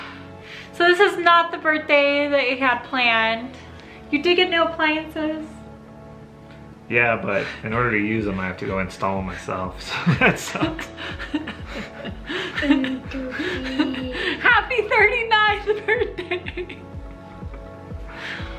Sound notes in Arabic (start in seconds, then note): 9.9 يضحك